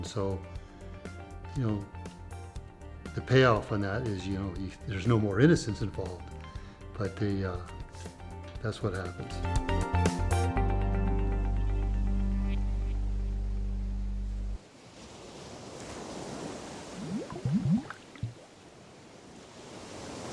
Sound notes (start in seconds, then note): 14.6 waves crashing